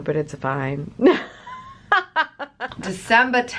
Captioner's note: laughs